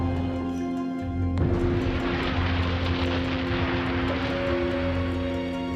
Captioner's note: explosion roars